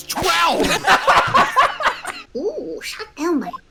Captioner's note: laughter